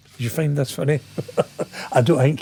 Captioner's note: laughing